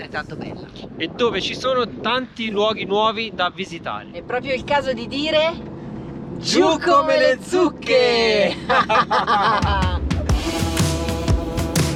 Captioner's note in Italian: risate